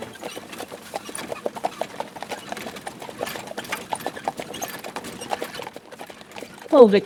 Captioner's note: horses and carriage